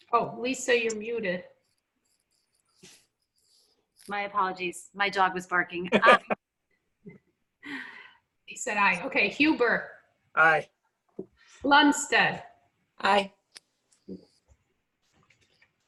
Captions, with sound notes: Oh, Lisa you're muted. >>My apologies, my dog was barking. (laughing) >>She sad aye, okay, Huber. >>Aye. >>Lundstedt. >>Aye.